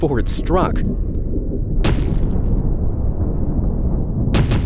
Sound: rocks rumbling

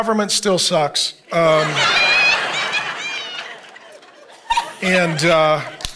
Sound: congregation laughing

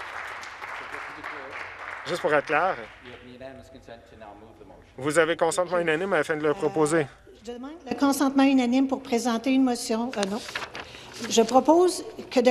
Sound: some Applause

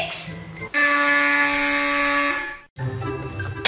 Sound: buzzer noise

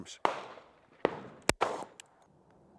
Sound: bang

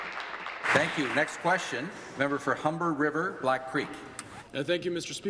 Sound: applause

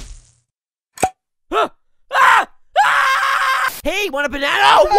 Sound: screams

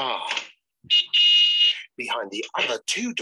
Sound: car honks

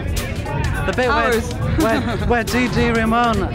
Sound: laughs

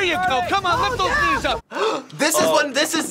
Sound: gasps

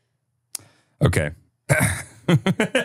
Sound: laughs

